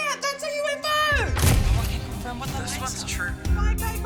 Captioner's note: camera shutter clicks